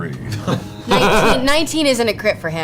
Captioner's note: laughs